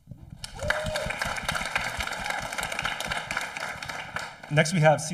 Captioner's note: audience applauding